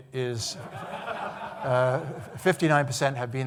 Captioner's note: audience laughing